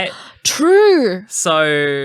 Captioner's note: gasp